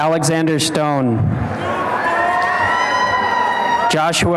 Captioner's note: applause and cheering